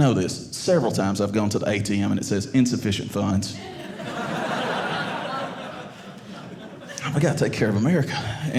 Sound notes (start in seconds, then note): 3.6 audience laughing